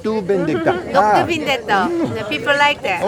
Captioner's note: Rick speaking in foreign language; speaking in foreign language